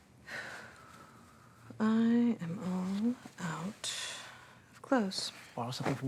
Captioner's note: sighs